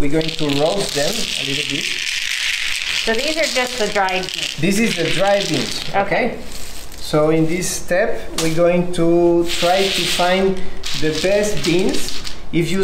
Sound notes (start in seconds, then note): 1.9 cacao beans pattering